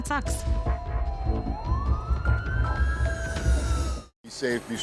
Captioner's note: siren wailing